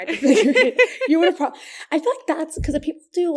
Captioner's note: laughs